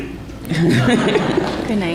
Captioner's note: laughter